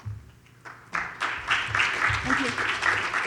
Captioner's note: audience applauds